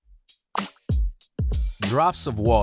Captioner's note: upbeat music; water drop pops